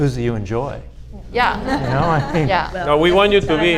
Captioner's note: audience laughs